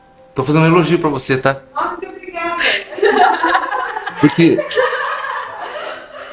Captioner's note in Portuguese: Risos